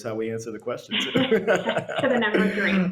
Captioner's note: laughs